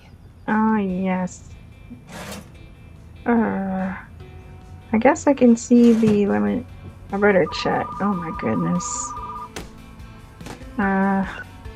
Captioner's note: phone rings